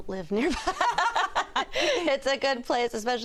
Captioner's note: laughter